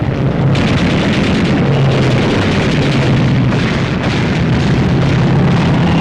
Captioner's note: guns firing